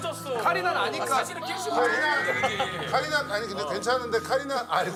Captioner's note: can't stop laughing